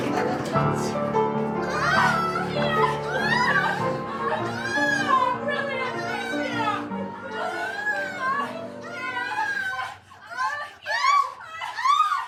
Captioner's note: so much moaning. too much moaning